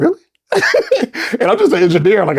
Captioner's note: laughs